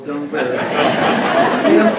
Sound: laughter

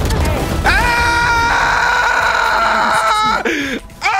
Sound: guns firing; screaming

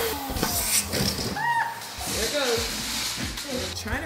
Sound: yelps

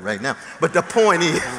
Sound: laughter

